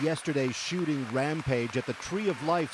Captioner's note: applause